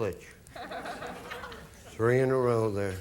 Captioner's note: audience laughing